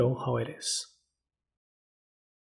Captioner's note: pause